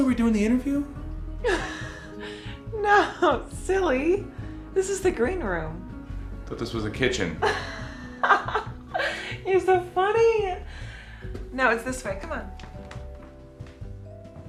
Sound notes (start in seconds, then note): 2.3 laughs; 7.6 laughs